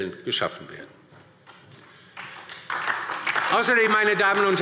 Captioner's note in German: Beifall DIE LINKE und SPD